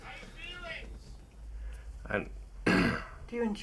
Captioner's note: clears throat